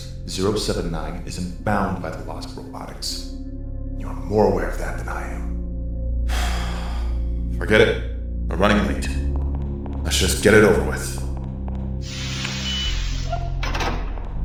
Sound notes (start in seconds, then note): 6.3 sigh